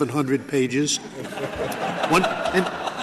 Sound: laughter

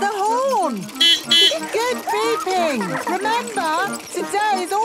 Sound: giggling; beeping

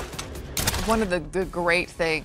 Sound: dramatic music; shoots gun

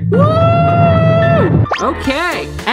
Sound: screaming

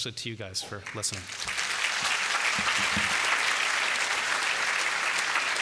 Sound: applause

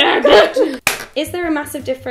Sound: clap

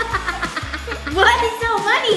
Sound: all laugh

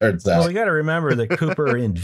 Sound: laughter

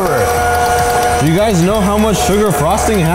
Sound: machine stirring

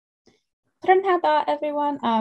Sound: speaking foreign language

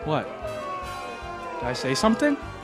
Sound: crowd booing

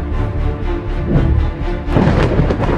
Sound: thunder

